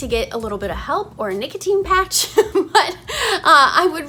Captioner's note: chuckles